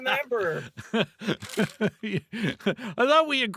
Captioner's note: laughing